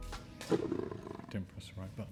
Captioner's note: lion roaring